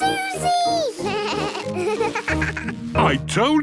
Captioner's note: bleating, laughing